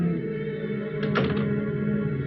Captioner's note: door closes